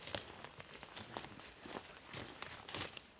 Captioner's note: footsteps